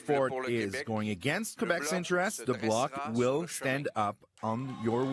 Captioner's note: cheering and Applause